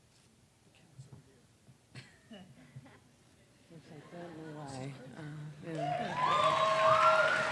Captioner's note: applause